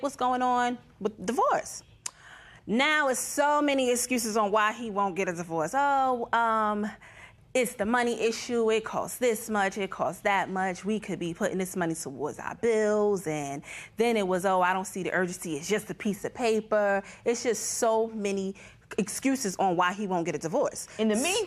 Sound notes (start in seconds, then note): none